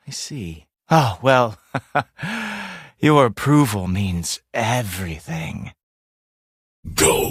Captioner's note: chuckles